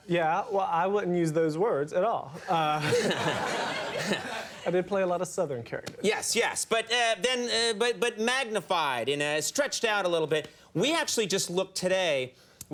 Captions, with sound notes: Yeah, well, I wouldn't use those words at all. (audience laughing) I did play a lot of Southern characters. Yes. But magnified and stretched out a little bit. We actually just looked today,